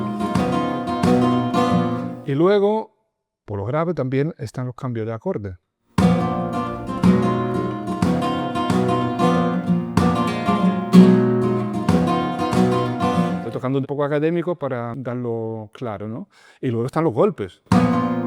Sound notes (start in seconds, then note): 17.7 taps